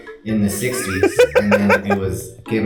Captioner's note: laughing